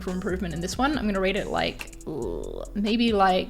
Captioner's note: groans